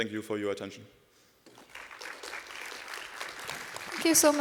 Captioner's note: applause